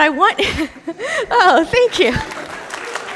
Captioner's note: audience applauding